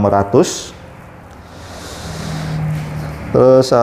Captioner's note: motorcycle engine noise